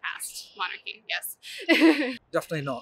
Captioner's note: laughs